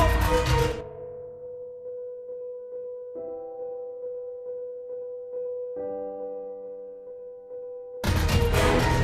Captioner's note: depresses in Scottish